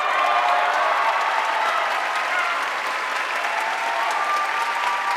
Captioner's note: audience cheering and applauding